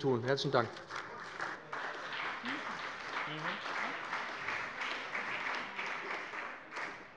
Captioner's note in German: Beifall bei dem BÜNDNIS 90/DIE GRÜNEN und der CDU